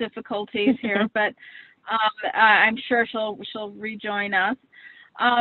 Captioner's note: laughs